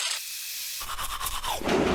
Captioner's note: teeth brushing